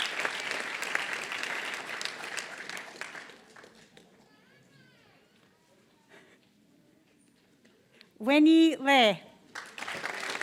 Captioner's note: applause; applause